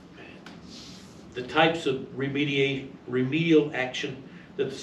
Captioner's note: stammers